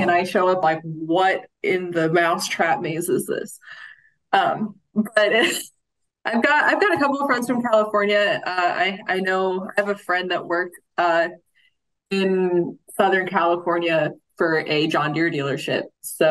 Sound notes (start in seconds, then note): 5.2 chuckles